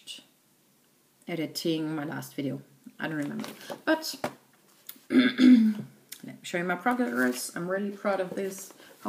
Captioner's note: clears throat